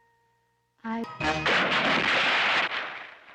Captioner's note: splash!